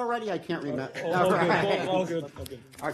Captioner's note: laughter